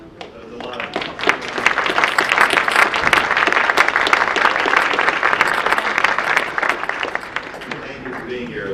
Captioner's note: audience applause